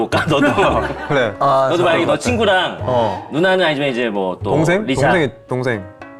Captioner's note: throbbing headache